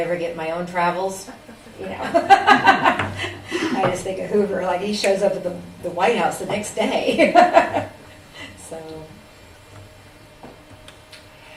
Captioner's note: laughs